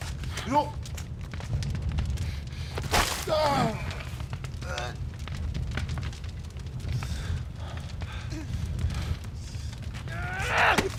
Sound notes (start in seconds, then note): 2.8 paint splatter